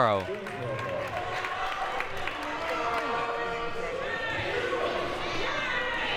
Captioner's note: audience applauding and cheering